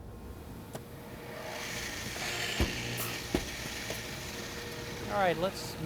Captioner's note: drill bits whir